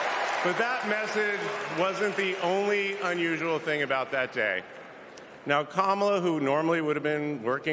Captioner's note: cheers and applause